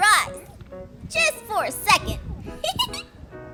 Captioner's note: laughs